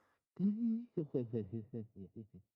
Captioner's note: distant muffled laughter